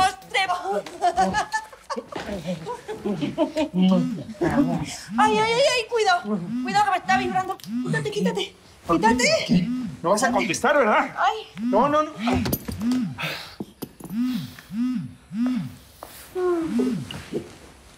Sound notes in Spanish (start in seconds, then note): 0.8 Risas; 3.6 Suena el celular; 11.6 Suena el celular